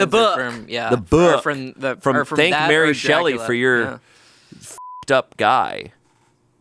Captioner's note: beep